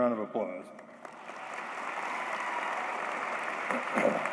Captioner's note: applause